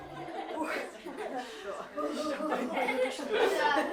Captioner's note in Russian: звучат разговоры